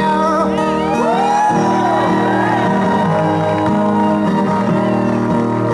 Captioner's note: audience cheers